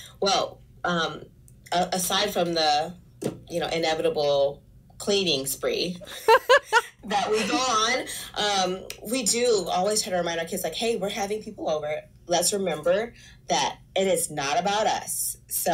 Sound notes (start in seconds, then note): 6.0 laughs